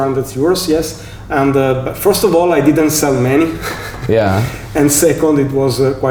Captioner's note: laughing